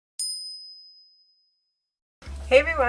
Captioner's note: bell chime